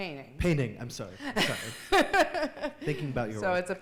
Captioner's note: laughing